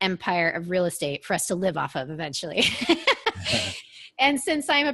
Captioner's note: laughs